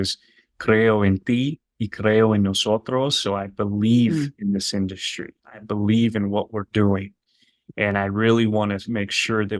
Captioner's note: spanish